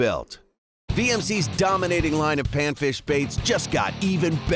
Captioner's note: voiceover